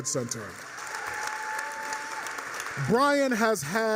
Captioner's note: applause, cheers